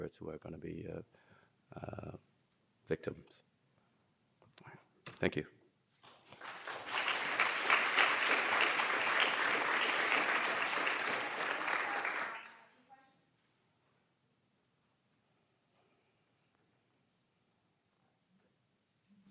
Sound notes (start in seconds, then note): 6.0 applause